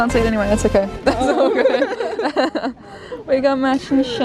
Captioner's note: all Laugh